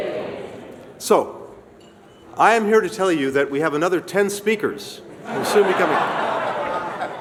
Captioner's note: laughter